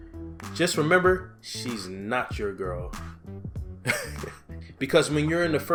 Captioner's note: laughs